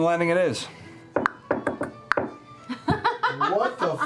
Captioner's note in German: Schnalzen und klopfen denselben Takt